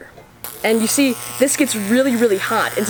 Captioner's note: electricity, decreasing in pitch